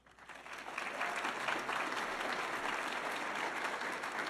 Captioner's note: audience applauding